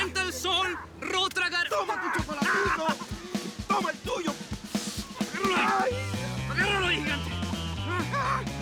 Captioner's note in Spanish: Risas